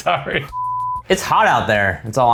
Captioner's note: beep